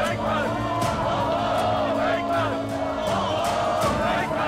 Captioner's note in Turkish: Hep bir ağızdan